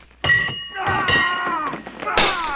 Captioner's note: fighting, glass breaking, etc